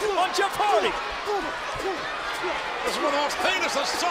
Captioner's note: Hardy and Punk grunt